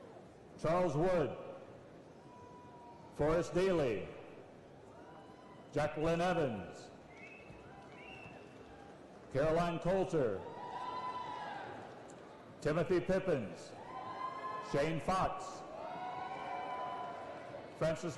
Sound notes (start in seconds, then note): 2.8 applause and cheering